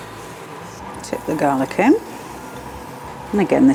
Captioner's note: sizzle